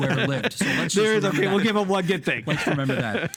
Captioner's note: laughing